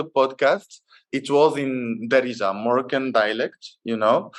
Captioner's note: moroccan dialect